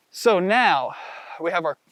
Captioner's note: outhales loudly